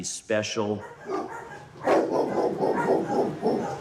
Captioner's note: dogs barking